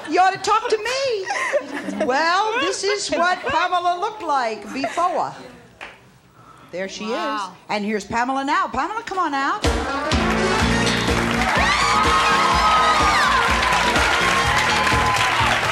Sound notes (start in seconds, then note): 10.0 engaging music; 11.4 crowd yells and cheers